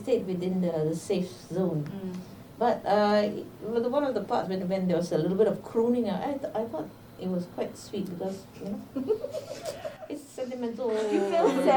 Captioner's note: laughs